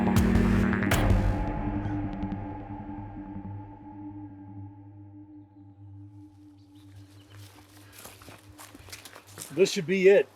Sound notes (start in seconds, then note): 3.1 forest din